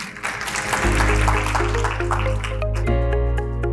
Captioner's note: audience applauding; upbeat music